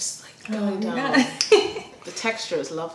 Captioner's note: laughter